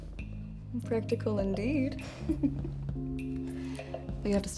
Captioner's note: laughs